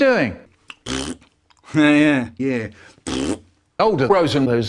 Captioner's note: ppppt